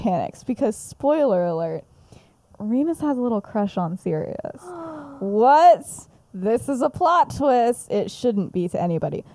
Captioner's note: gasps